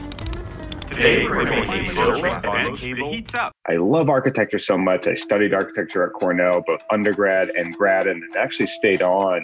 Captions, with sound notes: (many videos playing at once) Today... I love architecture so much. I studied architecture at Cornell, both undergrad and grad, and actually stayed on